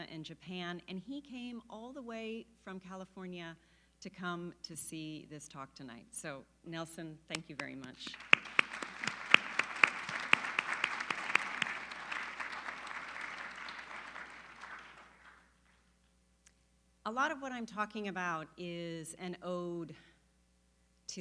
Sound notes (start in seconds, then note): 9.1 applause